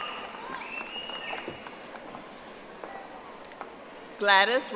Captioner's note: audience applauding